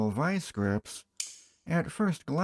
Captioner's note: click